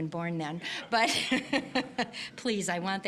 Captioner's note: audience laughing